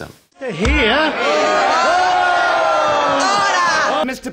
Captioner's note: yelling